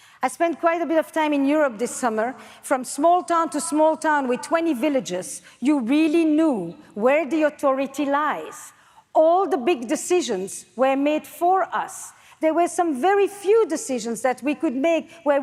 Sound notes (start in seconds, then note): none